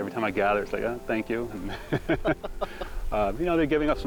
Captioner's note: laughing